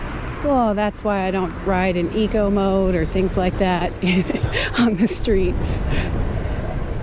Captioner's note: chuckle